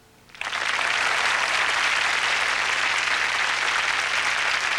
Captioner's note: applause